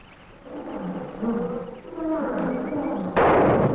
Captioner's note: jungle animals groaning; gunshot echoing; animals chattering